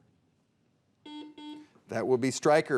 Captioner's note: buzzer beeping